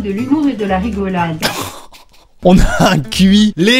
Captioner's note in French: rire